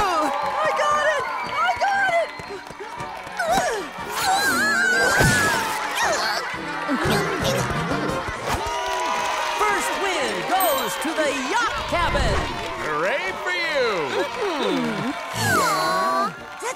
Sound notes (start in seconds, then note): 5.7 grunting; 8.1 cheering